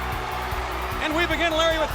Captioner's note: audience cheers; upbeat music